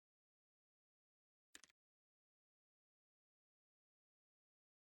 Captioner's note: clicks